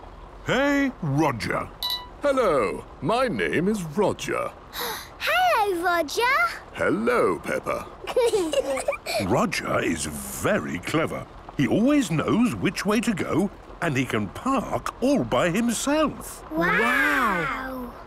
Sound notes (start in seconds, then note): 4.9 gasps; 8.0 children giggling